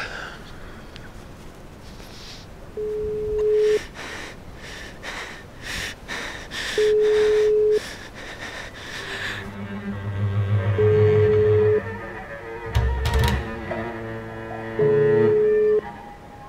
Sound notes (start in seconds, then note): 2.8 phone dialing; 8.7 tense string music